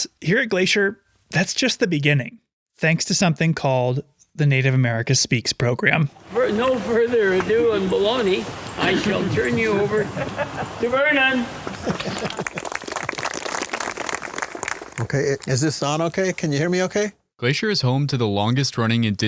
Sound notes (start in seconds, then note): 11.6 clapping